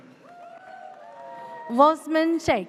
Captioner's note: audience cheers